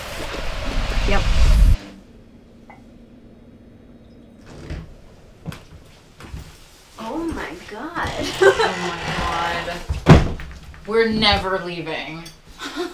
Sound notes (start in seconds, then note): 4.3 door opens; 7.9 laughing; 12.6 laughing